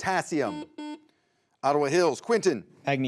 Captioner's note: buzzer beeps